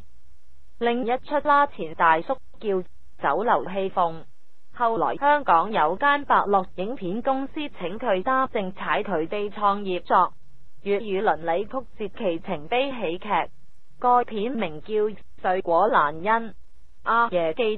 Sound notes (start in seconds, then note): 10.6 Cantonese